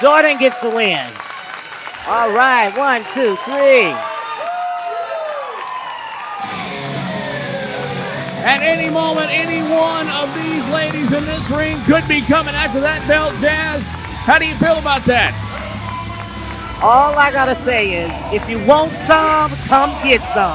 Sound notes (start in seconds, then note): 3.7 energetic music; 3.7 siren blaring